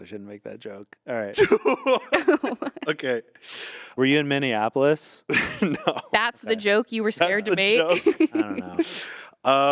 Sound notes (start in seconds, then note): 1.4 laughs